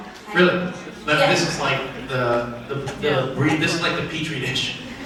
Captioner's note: stutters